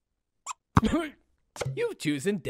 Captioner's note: bonk